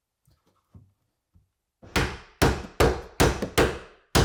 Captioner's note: hammer pounding